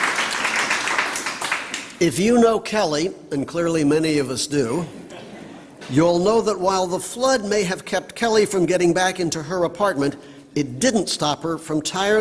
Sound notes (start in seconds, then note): 0.0 applause